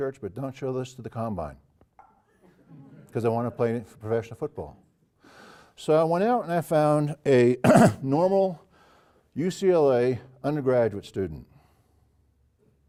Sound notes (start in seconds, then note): 7.6 cough